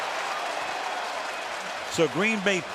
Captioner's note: cheering